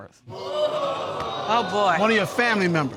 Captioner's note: audience gasps